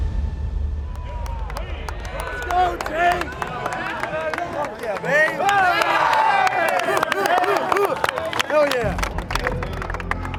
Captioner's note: cheering